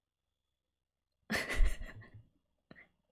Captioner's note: laughs